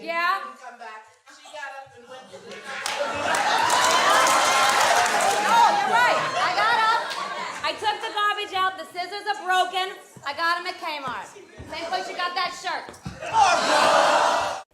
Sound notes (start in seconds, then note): 2.7 cheers and applause